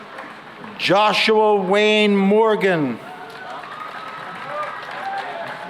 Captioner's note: cheering and applause